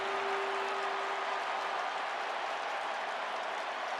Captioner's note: cheering